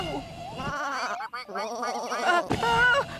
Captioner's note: sheep Bleating, Ducks Quacking